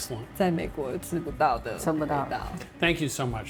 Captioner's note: speaking local language